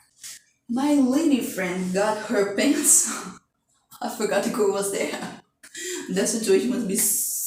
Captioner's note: laughs